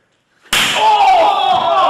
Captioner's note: chest slapping